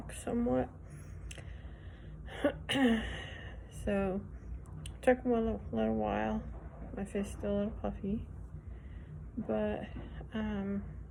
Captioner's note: clears throat